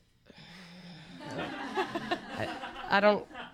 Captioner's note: audience laughter